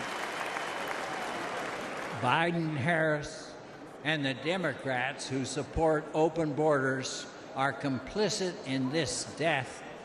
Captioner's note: cheers and applause